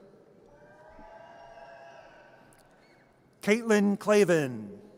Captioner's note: audience cheers